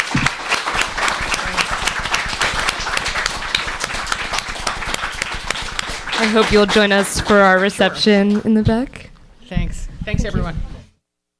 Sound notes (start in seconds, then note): 0.0 applause